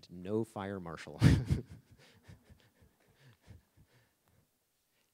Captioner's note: laughing